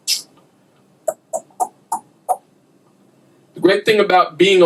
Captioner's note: clicking sound